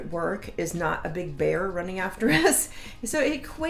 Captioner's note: laughs